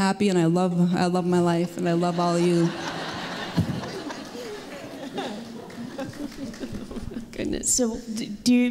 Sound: laughter and applause

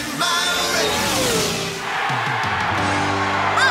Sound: cheering

